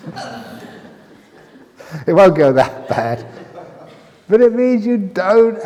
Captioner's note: laughter